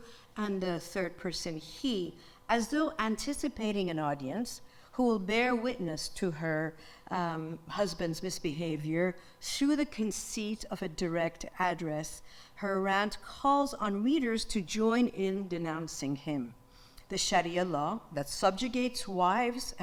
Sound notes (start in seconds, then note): none